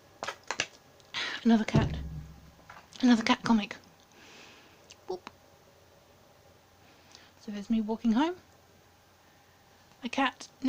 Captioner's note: boop